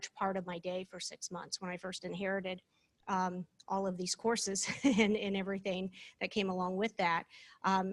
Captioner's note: laughter